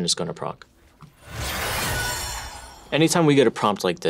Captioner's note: celebration whooshing